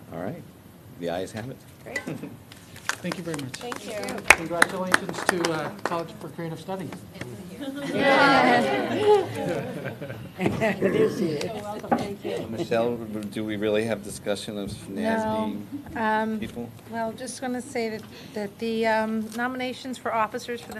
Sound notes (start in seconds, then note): 4.5 applause; 8.5 positive murmuring